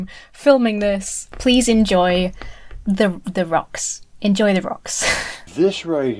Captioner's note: laughs